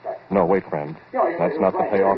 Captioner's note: narrates, over the voices